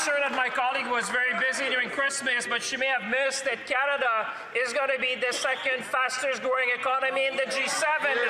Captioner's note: speaking French